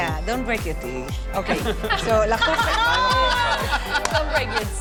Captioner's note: laughing